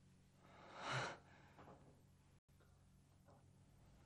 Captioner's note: gasping